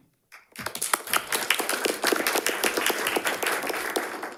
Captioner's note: audience applauding